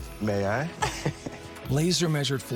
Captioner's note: laughs